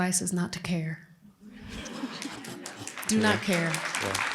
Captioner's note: laughter; applause